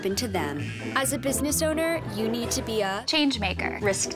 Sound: buzzer

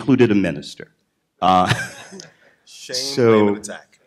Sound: laughter

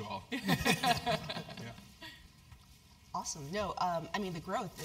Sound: laugh

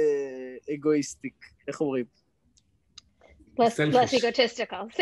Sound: speaks Hebrew

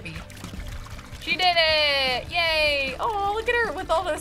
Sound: water splashes

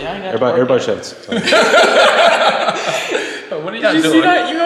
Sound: laughing

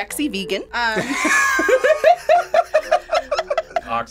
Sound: group laughs

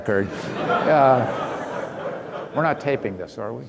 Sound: audience laughing

